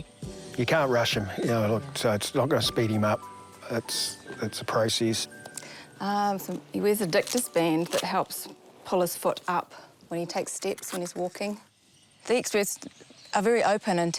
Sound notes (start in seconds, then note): none